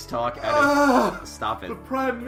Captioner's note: yet more moaning